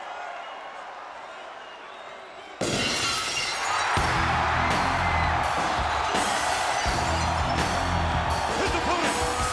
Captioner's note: applause